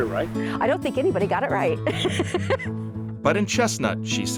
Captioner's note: laughs